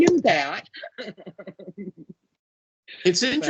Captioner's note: laughing